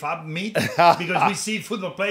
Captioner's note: Sen. Booker chuckles